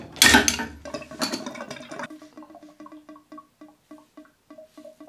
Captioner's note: water draining